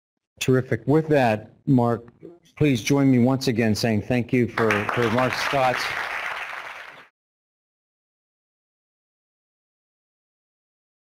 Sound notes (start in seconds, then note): 4.5 applause